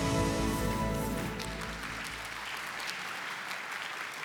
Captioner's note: applause